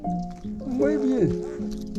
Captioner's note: Spanish